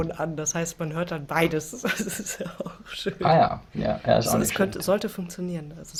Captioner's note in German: gelächter